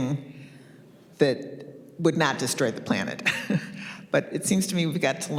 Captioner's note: chuckles